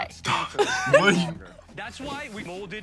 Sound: both laugh

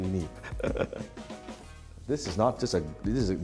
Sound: laughing

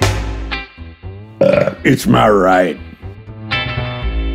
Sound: burps

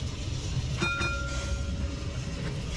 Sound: tram gong chimes

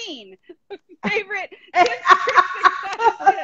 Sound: laughing

